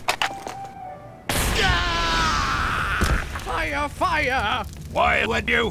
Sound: fire ignites/Civilian bursts in flames/Civilian screams

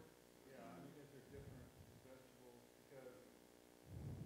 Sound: murmurs

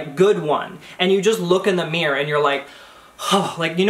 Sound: sighs

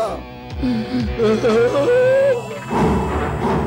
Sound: sobbing

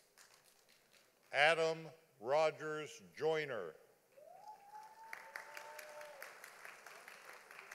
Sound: audience applauding

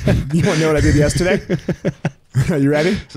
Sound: chuckles; laughs

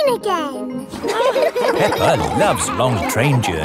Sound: laughing

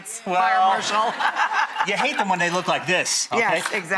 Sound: laughs

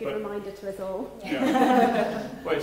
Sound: laughing

